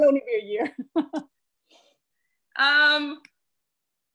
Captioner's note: laughter